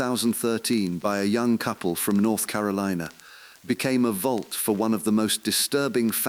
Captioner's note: exhale